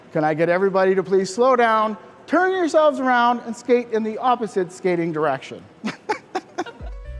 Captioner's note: laughs